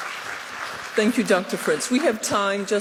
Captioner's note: applause